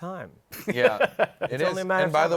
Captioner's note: laughs